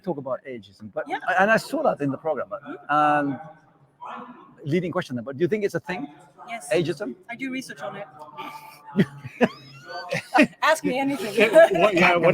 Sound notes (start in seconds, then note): 8.4 laugh